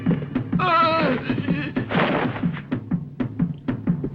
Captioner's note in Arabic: بورتر يصرخ